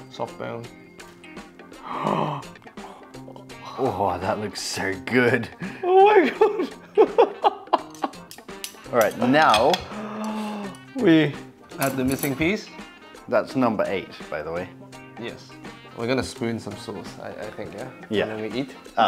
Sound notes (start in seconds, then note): 1.7 gasping; 6.2 laughs